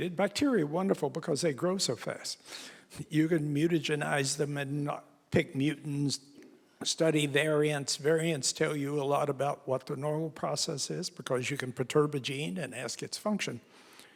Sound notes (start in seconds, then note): none